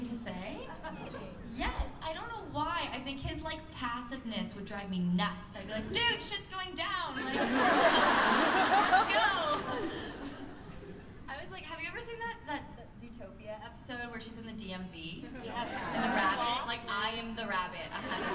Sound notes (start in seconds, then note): 7.1 laughter